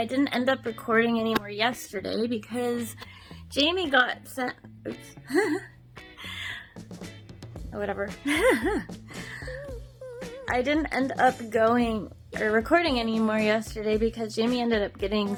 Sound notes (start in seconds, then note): 5.7 laughs; 8.2 giggles